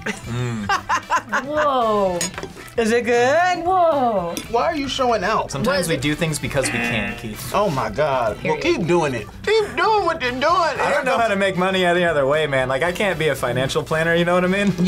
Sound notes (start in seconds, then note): 0.0 laughs; 6.6 buzzer